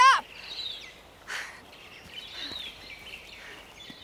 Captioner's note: birds chirping